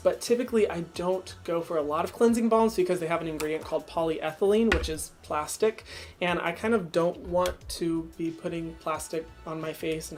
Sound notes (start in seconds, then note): none